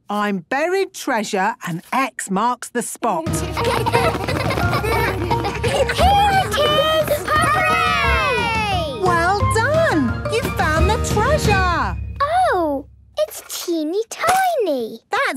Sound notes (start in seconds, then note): 3.4 laughter